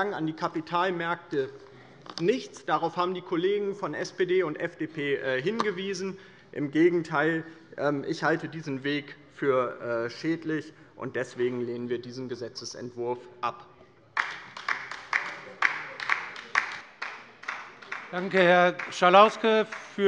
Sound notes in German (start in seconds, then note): 14.1 Beifall bei der LINKEN